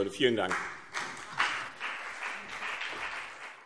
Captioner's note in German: Beifall BÜNDNIS 90/DIE GRÜNEN und CDU